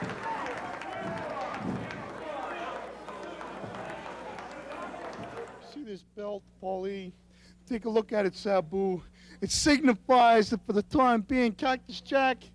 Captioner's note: crowd cheering